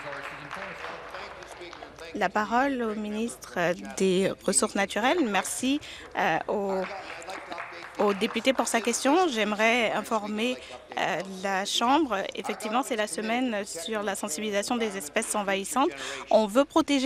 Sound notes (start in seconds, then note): 2.1 applause